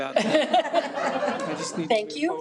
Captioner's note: people laughing